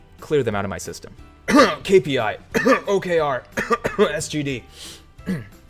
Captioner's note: clearing throat